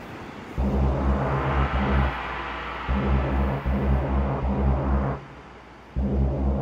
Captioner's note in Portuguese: som parecido com apito de navio